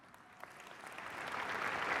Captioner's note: applause